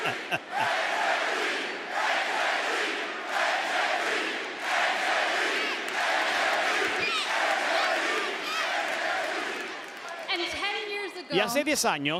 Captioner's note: laugh; applause